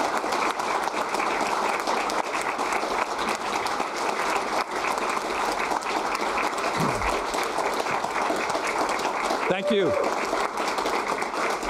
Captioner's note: applause